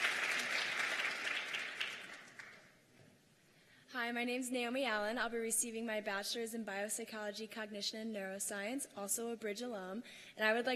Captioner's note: cheers and applause